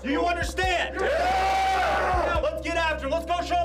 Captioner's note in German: Zustimmende Rufe